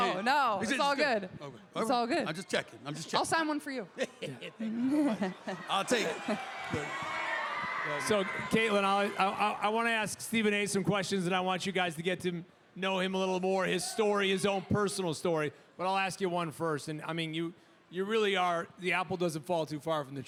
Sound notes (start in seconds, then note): 4.0 Stephen laughs